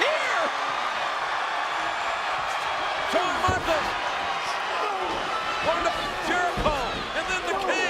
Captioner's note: applause